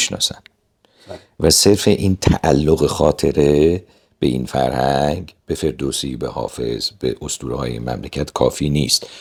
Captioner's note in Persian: صدای خرناس